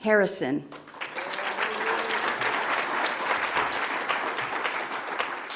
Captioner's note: audience applauds